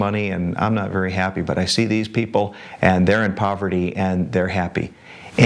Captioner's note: none